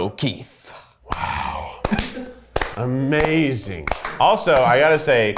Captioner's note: both applauding